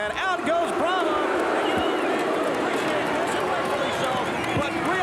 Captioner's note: applause